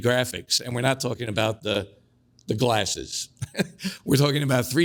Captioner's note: laughs